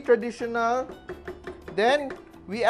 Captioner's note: knock